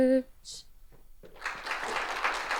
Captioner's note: congregation clapping